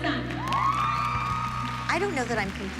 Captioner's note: cheers and applause